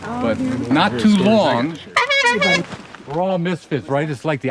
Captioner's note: honks clown horn